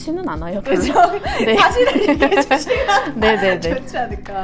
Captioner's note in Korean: 웃음